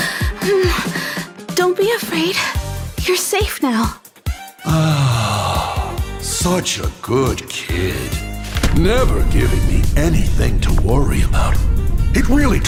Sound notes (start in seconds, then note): 4.6 sigh